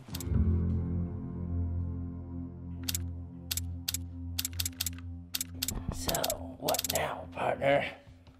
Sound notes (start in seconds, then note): 4.4 gun clicks